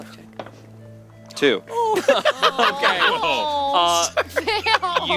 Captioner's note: all laugh at him